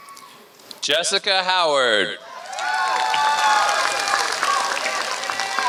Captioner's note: applause